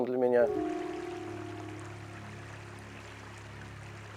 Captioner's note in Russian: журчание воды